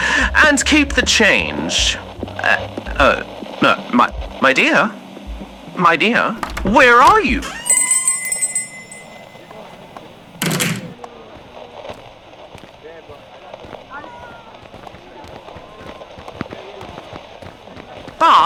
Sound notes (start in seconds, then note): 2.4 listener walking to door fx; 7.8 door opening and closing fx, Listener leaves shop; 10.9 crowd noises fx, Alastor running to catch up fx